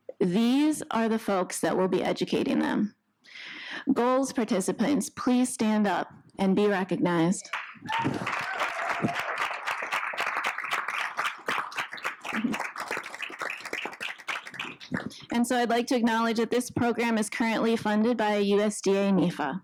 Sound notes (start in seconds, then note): 7.5 audience applauding